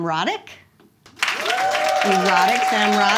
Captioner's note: audience claps